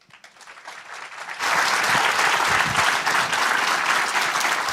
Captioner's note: applause